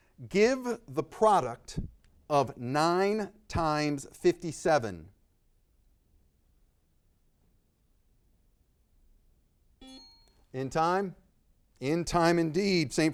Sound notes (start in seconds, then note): 9.8 buzzer beeping; 9.8 time bell dinging